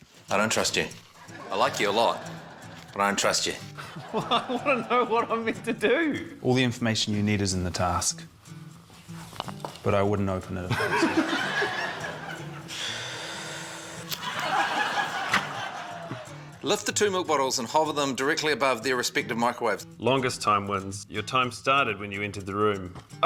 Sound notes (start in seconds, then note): 10.7 laughs; 12.6 exhales